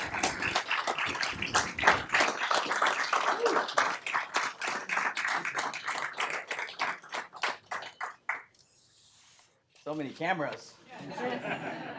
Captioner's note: applause; applause